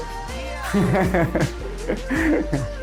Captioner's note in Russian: смеётся